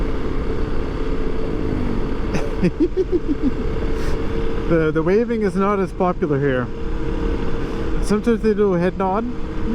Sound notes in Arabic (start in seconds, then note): 2.2 يضحك